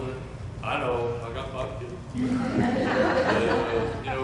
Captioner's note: chuckles